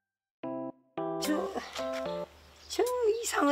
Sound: scratches

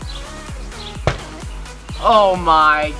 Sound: ball hitting board

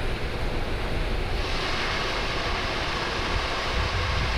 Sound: white noise

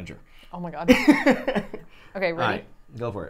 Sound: laughs

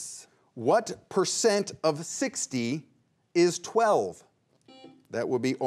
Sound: buzzer beeps once

